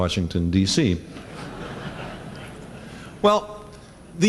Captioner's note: laughter